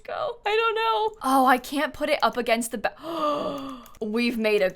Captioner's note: gasps